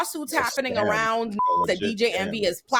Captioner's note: beep